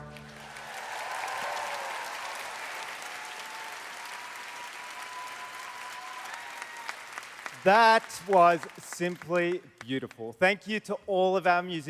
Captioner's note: applause